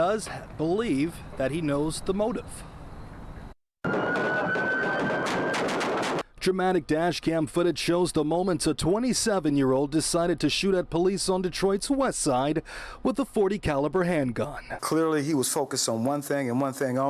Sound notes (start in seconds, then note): 7.2 gunfire